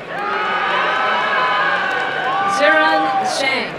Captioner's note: crowd cheering and applauding